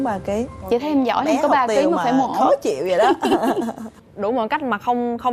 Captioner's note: laughing